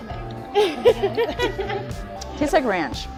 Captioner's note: laughing